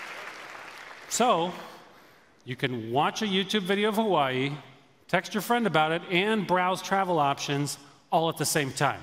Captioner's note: applause